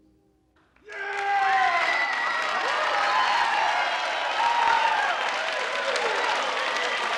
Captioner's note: all cheering; audience applauding